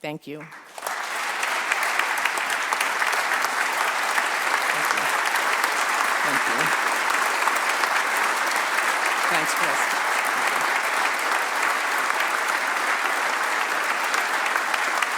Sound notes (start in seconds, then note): 2.3 applause